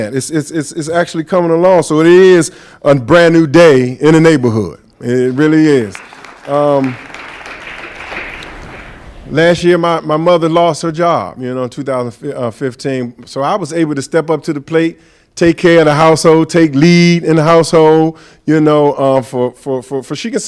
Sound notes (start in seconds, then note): 5.2 applause